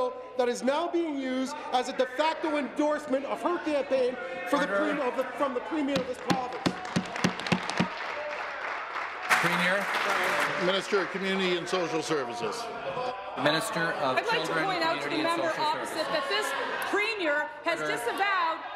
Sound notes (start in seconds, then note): 12.1 applause